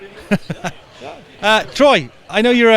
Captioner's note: laughter